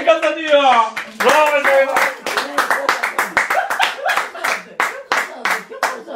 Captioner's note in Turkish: alkiş sesi̇